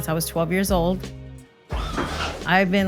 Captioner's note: car whirs